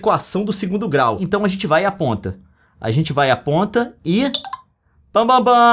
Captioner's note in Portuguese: barulho do app